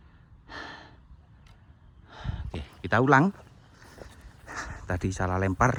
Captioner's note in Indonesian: menghela napas; terkesiap